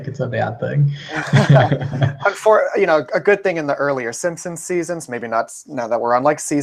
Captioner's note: laugh